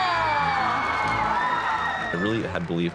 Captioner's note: cheers and applause